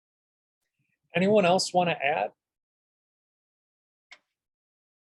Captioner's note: silence